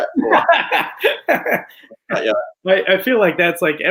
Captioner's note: laughs